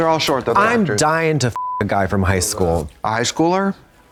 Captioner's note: beep